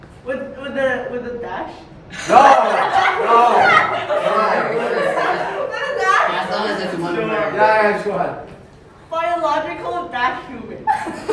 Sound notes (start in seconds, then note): 2.2 everyone chuckles; 10.9 everyone laughs